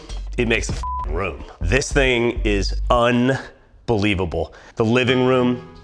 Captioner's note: beep